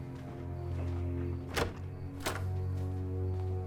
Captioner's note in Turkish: Kapı açılma sesi